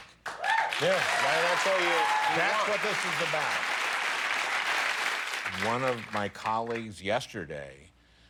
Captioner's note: cheers and applause